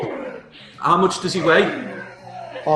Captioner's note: grunting